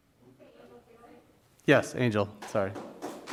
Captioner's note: speaking faintly off mic